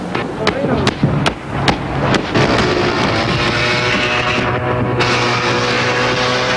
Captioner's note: sound of a chainsaw cutting a beard